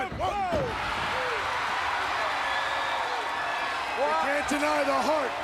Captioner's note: audience cheering